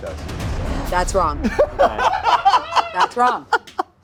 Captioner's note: laughing